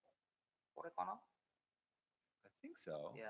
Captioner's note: speaking japanese